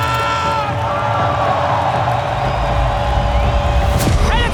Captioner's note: crowd cheering, applauding